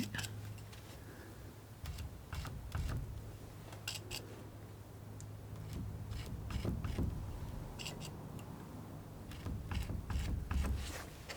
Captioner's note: scratching